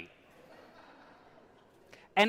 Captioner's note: audience laughs